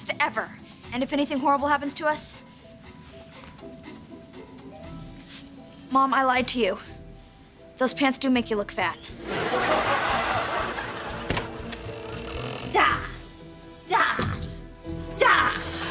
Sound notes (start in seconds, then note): 11.1 creaking; 15.2 screaming